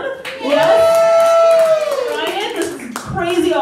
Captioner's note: crowd Cheers